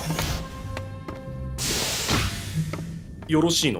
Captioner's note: beep. Sound of door sliding open; door hisses shut